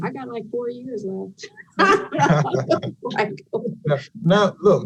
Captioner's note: panelists laughing